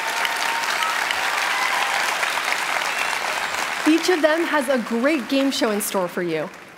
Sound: applause

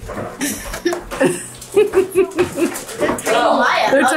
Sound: mom laughing

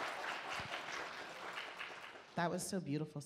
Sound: audience applauding

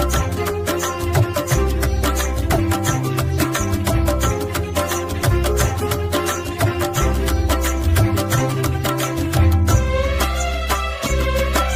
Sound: clap

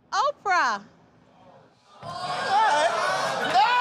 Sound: audience groans

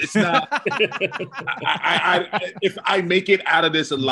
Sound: laughter

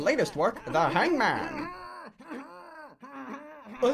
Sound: Jacques' muffled "hon-hons" of terror

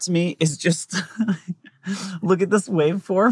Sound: chuckles

